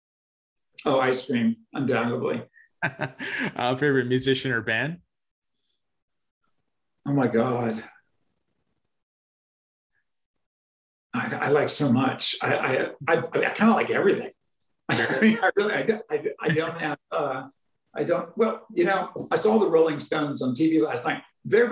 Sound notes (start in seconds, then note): 1.8 laughing